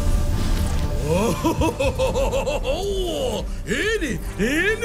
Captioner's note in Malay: ketawa